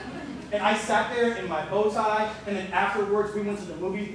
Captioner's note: laughter